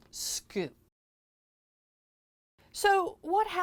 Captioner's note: no Sound Present